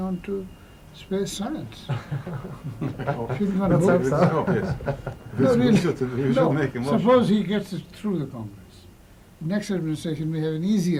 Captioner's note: laughter